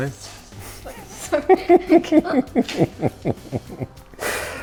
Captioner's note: laughs